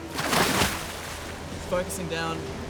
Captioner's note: splash